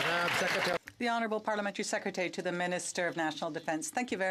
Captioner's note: some Applause